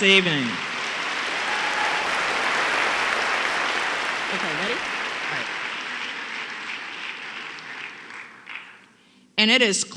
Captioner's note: applause